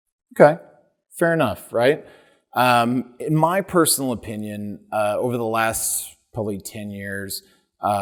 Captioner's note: none